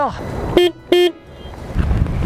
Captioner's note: horn sound